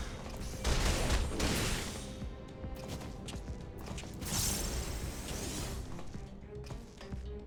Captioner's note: gunshots